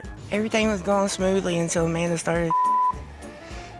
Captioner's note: beep